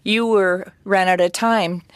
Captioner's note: speaking French